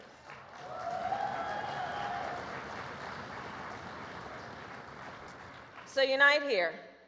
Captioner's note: applause